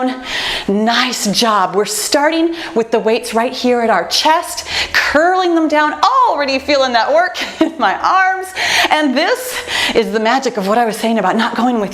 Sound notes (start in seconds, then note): 7.6 laughs